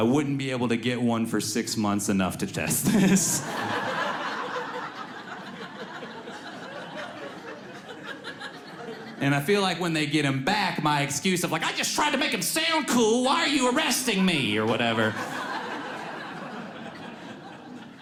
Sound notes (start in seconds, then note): 2.7 audience laughs